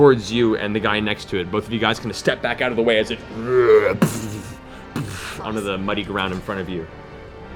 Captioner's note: moans, thuds